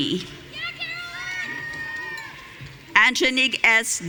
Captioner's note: audience cheering